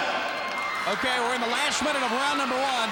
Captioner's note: crowd cheering